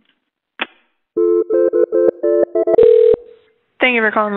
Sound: phone ringing

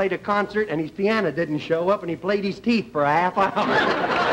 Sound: laughter

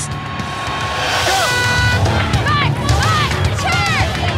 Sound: air horn blows

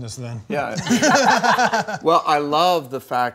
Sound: laughter

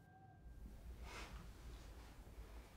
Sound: people sniffling

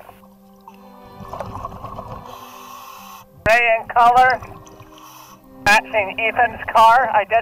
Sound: tense music; breathing

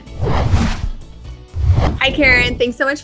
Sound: upbeat music; air whooshing

